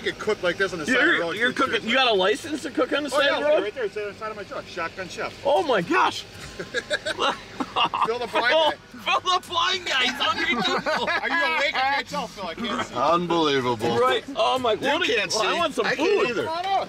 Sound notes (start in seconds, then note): 6.2 laughing; 11.8 laughing